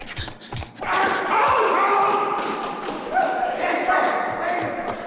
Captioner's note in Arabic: الناس يصرخون